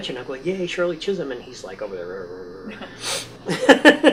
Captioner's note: grumble